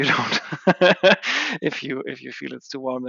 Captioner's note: laughing